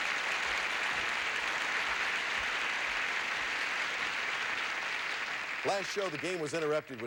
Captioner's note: audience applauding